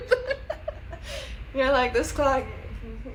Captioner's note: laughs